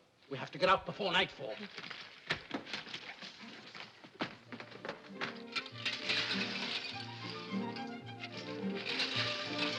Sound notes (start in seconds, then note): 3.1 sounds of rummaging; 4.6 whimsical music; 5.3 coins clinking